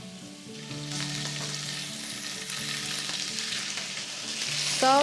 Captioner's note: sizzling